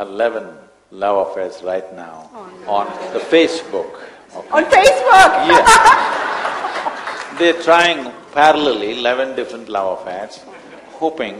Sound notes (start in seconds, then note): 5.5 laughter/Applause